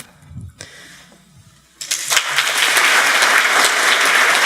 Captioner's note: applause